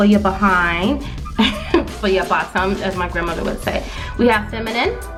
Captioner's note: laughs